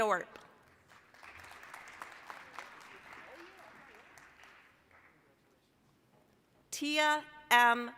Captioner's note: applause